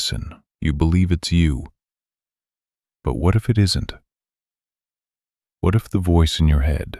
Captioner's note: pause